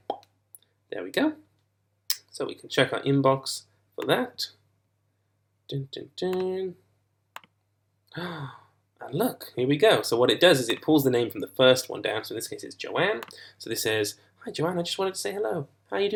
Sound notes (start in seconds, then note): 0.0 pop; 8.1 gasp